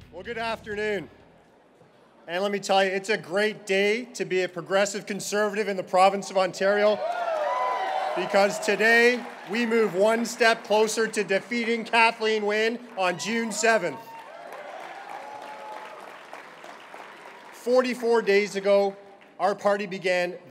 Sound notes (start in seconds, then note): 6.8 cheering; 14.6 applause